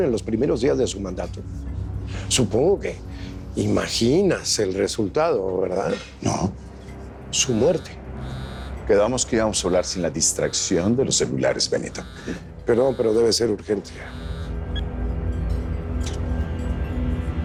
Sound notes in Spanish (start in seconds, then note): 8.2 Suena el celular